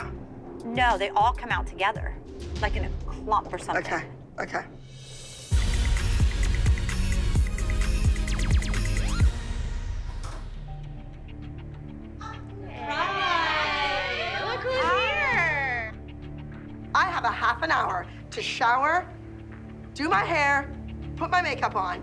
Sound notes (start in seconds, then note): 9.1 door opens